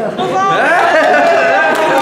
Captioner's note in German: Jubel, Lachen